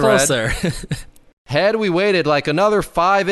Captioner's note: chuckles